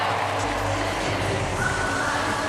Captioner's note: cheering